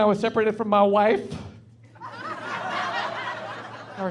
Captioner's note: laughing